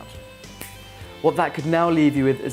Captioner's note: snaps